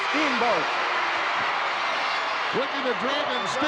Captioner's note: crowd yelling